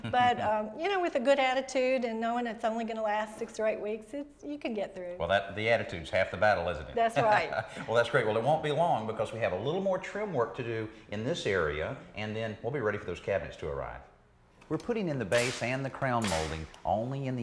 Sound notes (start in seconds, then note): 0.0 laughing; 7.6 laughing